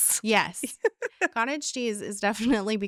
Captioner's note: laughing